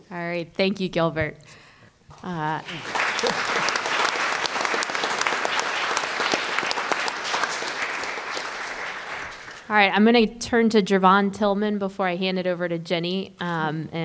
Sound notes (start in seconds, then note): 2.5 applause